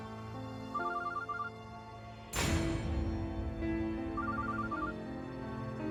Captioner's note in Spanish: suena el celular